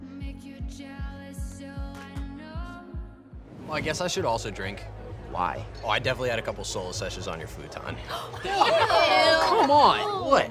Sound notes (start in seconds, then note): 8.0 group gasps